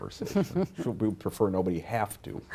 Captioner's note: laugh